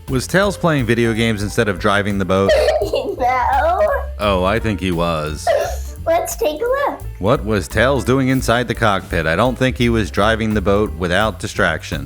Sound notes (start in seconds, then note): 2.4 laughing